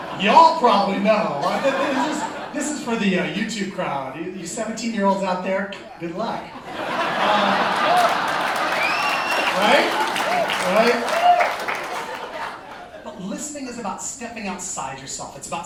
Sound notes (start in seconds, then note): 0.0 laughter; 6.6 laughter and Applause; 10.2 applause